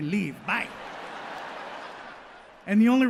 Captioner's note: audience laughs